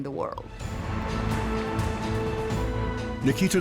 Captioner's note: crowd cheers